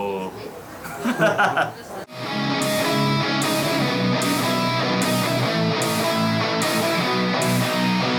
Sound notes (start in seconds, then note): 0.8 laughter